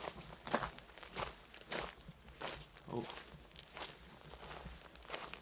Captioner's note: none